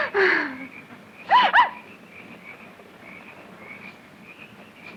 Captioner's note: Valerie gasps